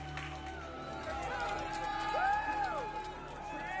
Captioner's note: cheers and applause